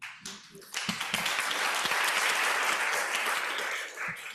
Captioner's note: applause